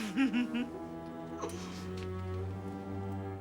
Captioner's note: laughing